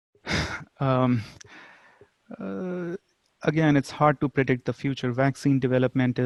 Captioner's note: sighs